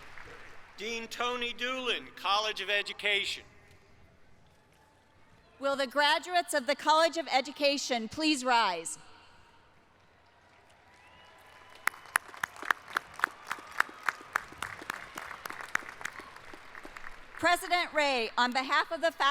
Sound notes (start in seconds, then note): 17.4 applause